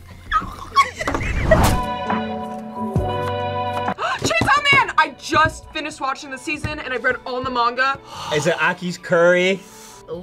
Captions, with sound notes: (both laugh) - (gasps) Chainsaw Man! I just finished watching the season, and I've read all the manga! - Is it Aki's curry?